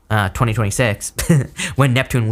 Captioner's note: chuckles